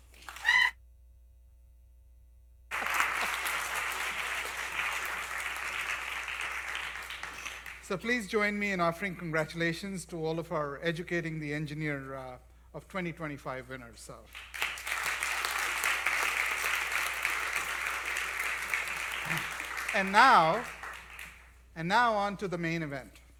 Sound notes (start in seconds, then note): 0.2 applause; 14.2 applause